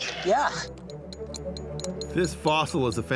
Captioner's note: picks clinking